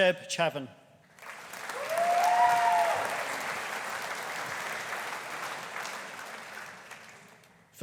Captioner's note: audience applauding; audience cheering